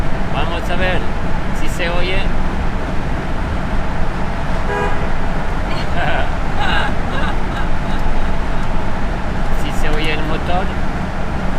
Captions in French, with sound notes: Voyons si vous pouvez entendre ça... [On entend le klaxon] [Rires] Voyons si vous entendez le moteur.